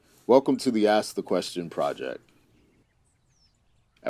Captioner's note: birds chirping